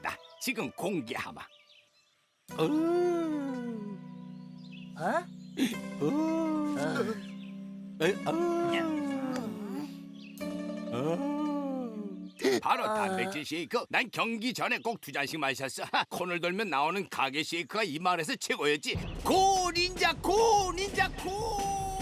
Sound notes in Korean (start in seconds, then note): 1.8 들숨소리; 5.6 날숨소리; 6.0 셉 신음; 8.0 닌자들 신음; 8.0 숨이 흔들리는 소리; 10.4 거친 날숨소리